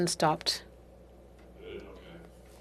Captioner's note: speaking French